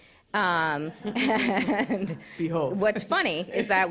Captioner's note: laughter